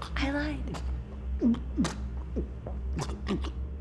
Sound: struggling to breath

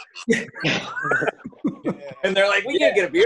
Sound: laughing

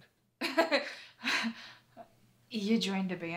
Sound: laughter

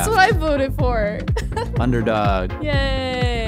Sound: laughing gently

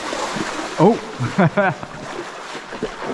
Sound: laughs

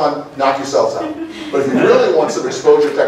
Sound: laughter

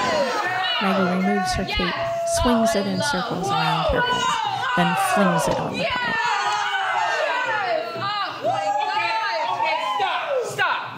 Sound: cheering

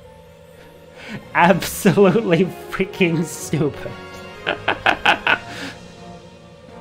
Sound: laughter

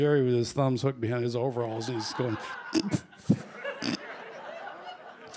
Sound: slightly suppresses his laughter

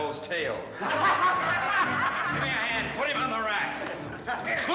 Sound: laughter

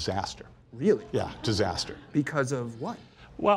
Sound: laughs

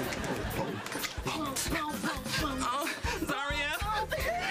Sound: Imitating Michael Jackson

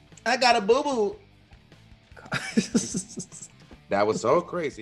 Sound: laugh

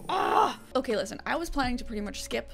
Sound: grunts

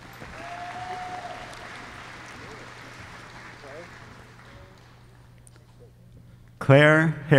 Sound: applause

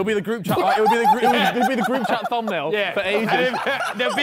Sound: men laughing

